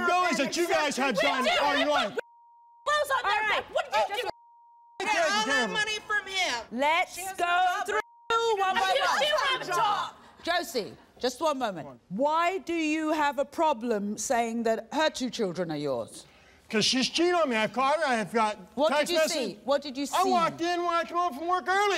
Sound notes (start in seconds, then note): 1.8 everyone screaming